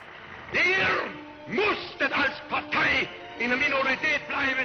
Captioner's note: speaking German